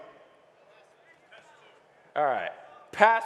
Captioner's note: audience members murmuring